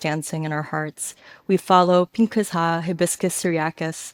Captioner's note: speaks a foreign language